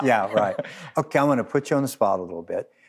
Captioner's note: both laugh